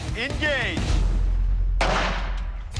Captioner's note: gunshot